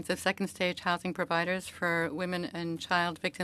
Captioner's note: speaking French